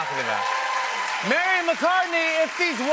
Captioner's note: cheers and applause